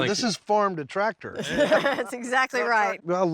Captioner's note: everyone laughs